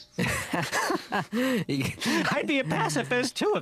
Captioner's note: both laugh